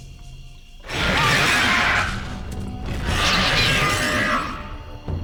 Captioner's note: roaring